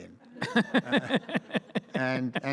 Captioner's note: audience laughs